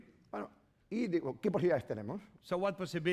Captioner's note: speaking spanish